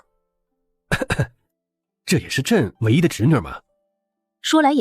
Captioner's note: cough